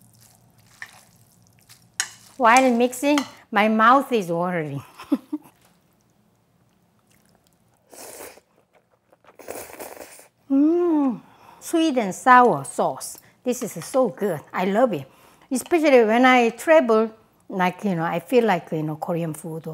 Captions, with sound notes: While mixing, my mouth is watering. (laughs) (slurping) Mmm! Sweet and sour sauce. This is so good, I love it! Especially when I travel and I feel like some Korean food